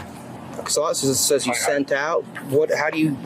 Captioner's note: radio chatter